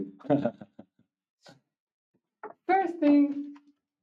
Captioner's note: laughing